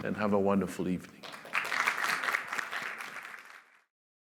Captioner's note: applause